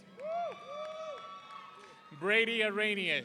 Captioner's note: audience cheering